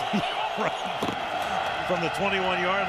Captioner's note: laughs